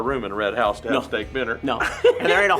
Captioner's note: laughs